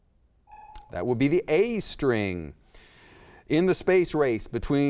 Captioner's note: timer sounds